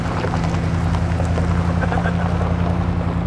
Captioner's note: laughing